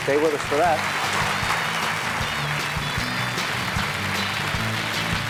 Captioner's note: applause